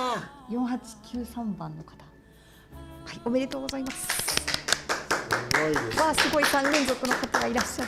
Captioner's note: applause